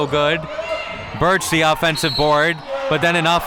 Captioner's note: whistle blows